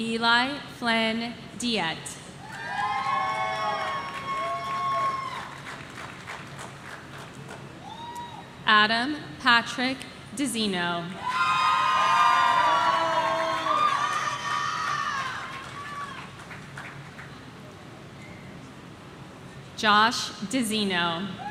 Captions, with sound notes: Eli Flynn Diet. (audience cheering) Adam Patrick Dizino. (audience cheering) (person shouting) Josh Dizino.